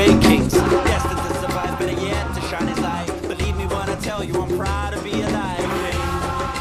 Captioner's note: non-english